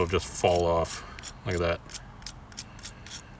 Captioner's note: wire brush scraping